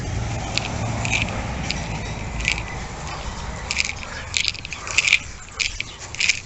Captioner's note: rattles & hums